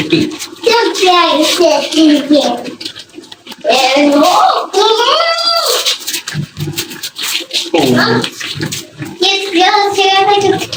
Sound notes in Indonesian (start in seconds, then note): 3.9 berteriak